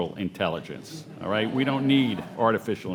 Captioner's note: audience laughing